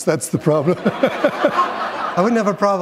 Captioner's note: chuckle